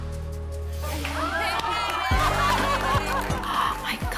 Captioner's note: women all laughing and cheering